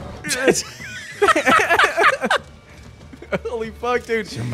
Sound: both laughing

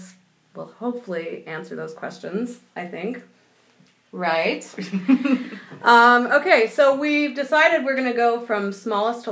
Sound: laughing

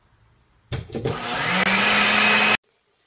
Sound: blender turns on

